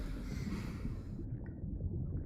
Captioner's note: sigh